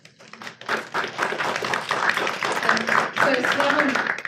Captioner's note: audience applauds